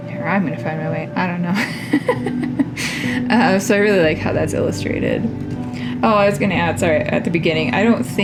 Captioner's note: laugh